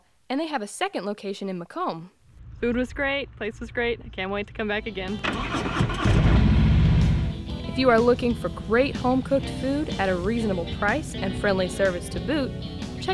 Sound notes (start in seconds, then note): 6.0 motorcycle engine rumbling